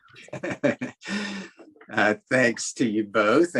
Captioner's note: laughing